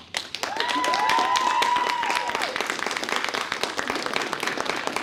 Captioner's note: cheers and applause